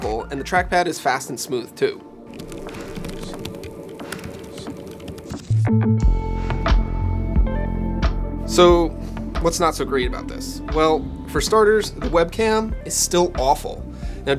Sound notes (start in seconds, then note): 2.3 keys clicking; 5.8 light music